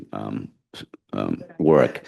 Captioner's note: laughs